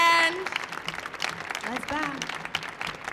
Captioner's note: audience applauding